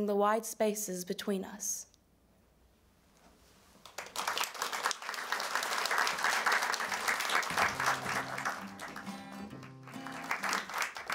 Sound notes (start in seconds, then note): 3.8 applause